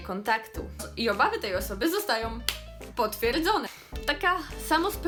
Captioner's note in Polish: klaps